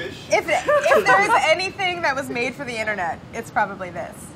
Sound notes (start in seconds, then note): 0.4 laughing